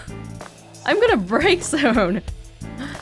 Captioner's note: chuckles